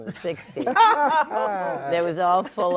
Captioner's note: all laughing